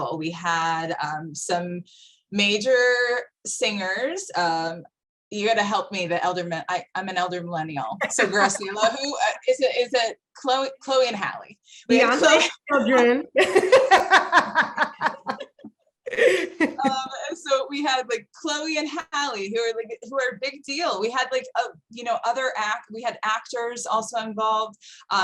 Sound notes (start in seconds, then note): 12.6 murmurs; 14.0 laughing